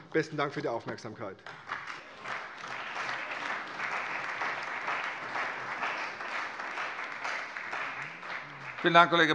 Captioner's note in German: Beifall bei der CDU und dem BÜNDNIS 90/DIE GRÜNEN